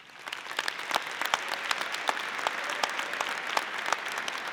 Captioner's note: audience applauding